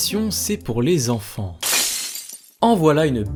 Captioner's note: sound of breaking glass